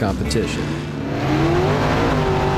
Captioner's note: buggies revving